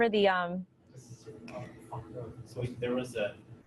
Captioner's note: audience member speaks from a distance